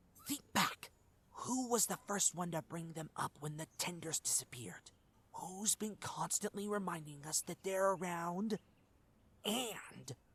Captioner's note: whispered